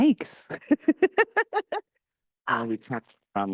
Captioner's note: laughing